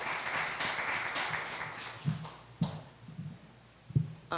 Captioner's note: applause